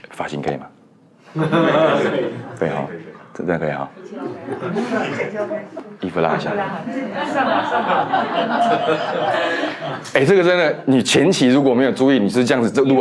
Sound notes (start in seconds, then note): 1.4 laughs